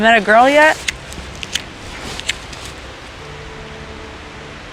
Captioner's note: lighter clicks